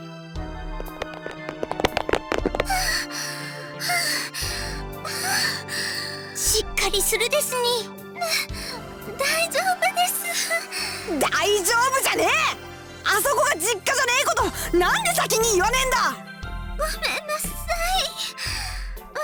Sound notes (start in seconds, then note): 3.7 huff; 3.8 pant